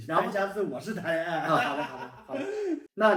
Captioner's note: laughing out loud